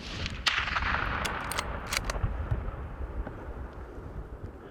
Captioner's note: gunshot